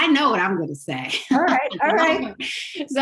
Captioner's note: laugh